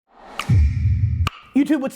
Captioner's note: logo whooshing; logo clicking